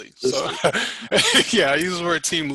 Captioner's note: laughing